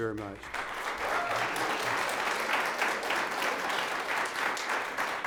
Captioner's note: audience applauds